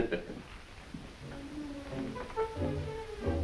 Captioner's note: Piggy chuckles; instrumental music